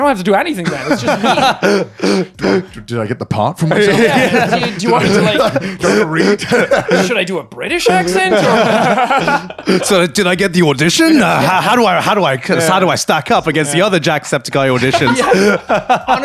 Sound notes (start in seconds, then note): 0.6 laughing